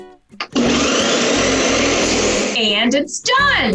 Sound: whirring

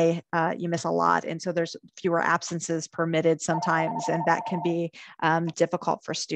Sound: phone ringing

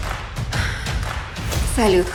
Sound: sighs

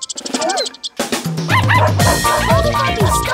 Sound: barking

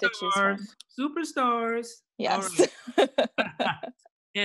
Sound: laughs

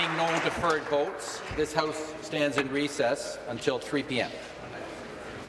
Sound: applause

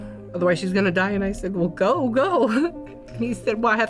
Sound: laughs

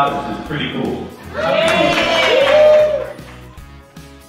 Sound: applause

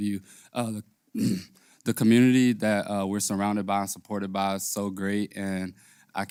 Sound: cough

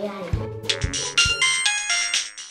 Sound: mobile rings

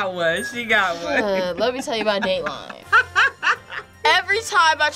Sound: laughs

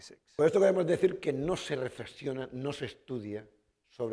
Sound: speaking spanish

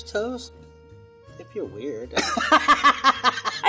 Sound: laughs

